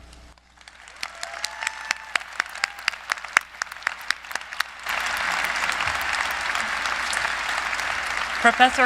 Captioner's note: applause